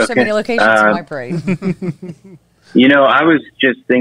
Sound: laughs

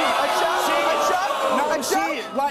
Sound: crowd jeers

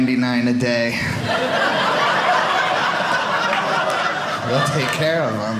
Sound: audience laughing

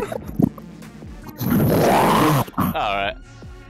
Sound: intense zombie death sound

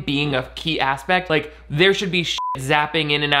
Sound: beeping

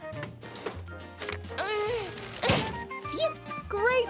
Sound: grunting

